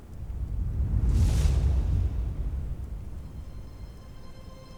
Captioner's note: energy whoosh; pensive music playing